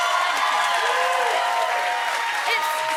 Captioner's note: cheers and applause